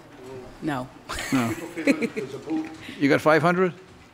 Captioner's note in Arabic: يضحك